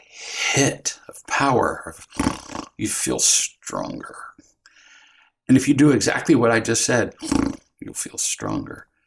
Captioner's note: snort